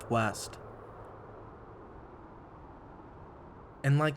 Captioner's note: wind whirring